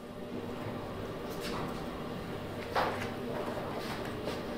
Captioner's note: machine roaring in the background